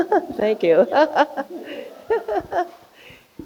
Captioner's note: laughing